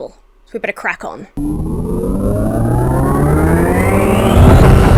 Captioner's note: magic powering up